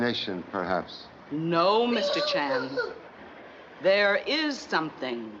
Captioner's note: gasping